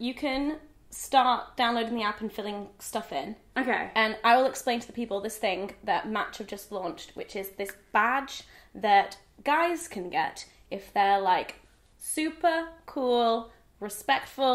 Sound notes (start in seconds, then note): none